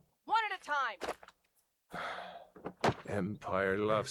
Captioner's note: sigh